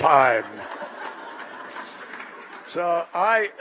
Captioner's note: laughter